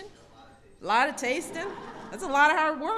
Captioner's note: laughter